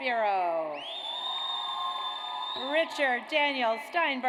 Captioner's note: audience cheers